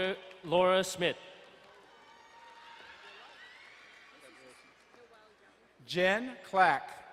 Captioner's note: crowd cheering and applauding